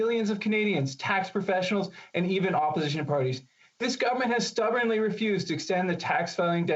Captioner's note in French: voix de l'interprète